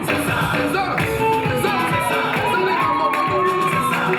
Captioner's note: audience applauding